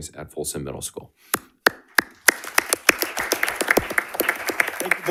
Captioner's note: audience applauding